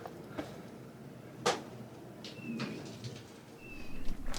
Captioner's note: faint thud